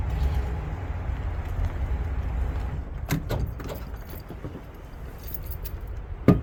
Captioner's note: wind howling